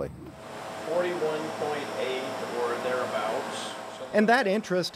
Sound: machine whirs

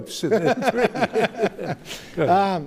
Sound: laughter

